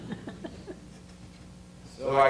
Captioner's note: audience laughter